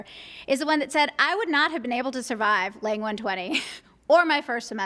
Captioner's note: laughs